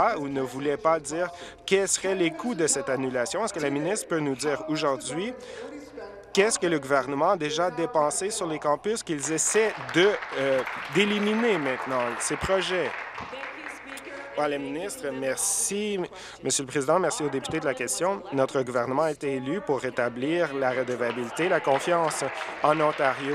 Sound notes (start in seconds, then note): 12.9 applause